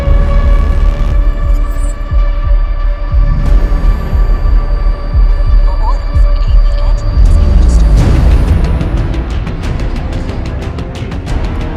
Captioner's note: heartbeat; music swells